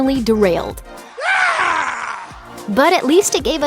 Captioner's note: scream